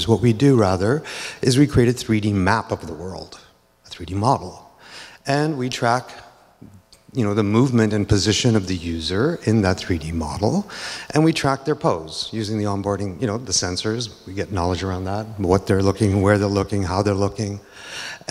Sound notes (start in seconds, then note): none